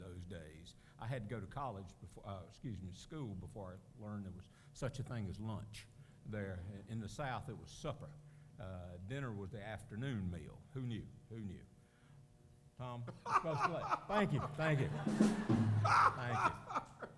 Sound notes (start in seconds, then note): 13.0 laughter